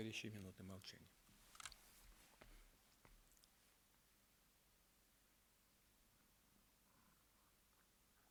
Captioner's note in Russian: Минута молчания